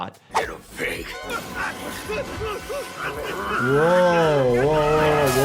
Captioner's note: eerie music; Miles Upshur yelling